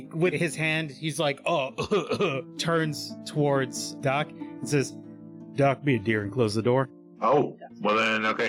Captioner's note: cough cough